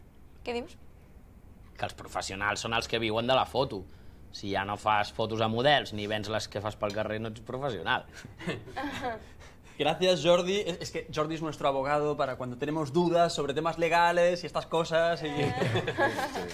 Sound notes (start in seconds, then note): 8.4 laughs; 9.2 sergi ironically; 15.3 they all laugh